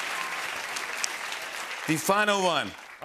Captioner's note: applause